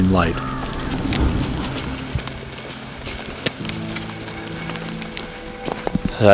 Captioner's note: sound of walking